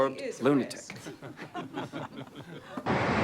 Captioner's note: laughter